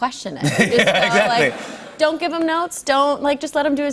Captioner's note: light laughter